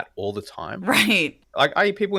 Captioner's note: laugh